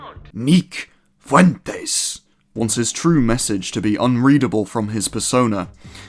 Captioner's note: Spanish pronunciation on “Fuentes”